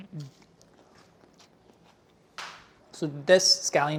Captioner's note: salad crunches